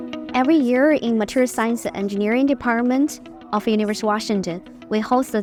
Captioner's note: voiceover